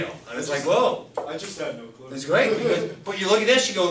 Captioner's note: voiceover